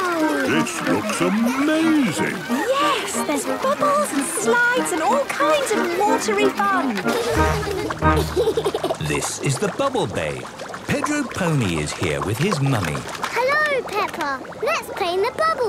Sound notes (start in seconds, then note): 7.0 giggles